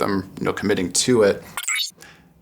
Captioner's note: electronic sound